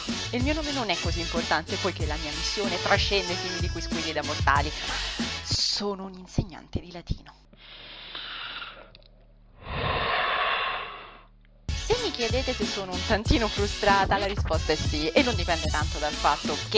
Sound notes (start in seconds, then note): 7.5 breathes dramatically